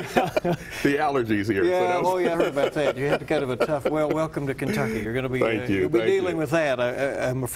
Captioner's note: laughter